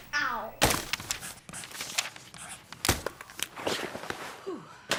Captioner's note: papers flapping